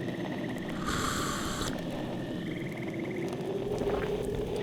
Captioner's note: sips